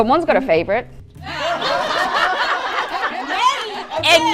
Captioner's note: crowd and judges laughing